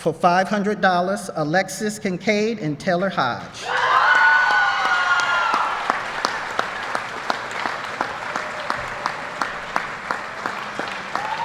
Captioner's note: applause